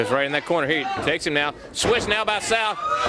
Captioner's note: crowd chatter